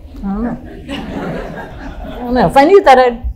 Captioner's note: audience laughing softly